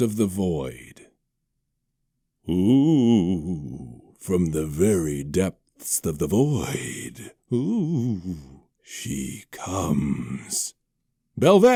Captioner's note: ooOOoo